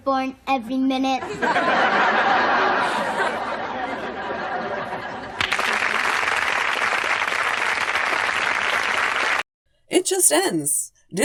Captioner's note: 5 straight minutes of applause for some reason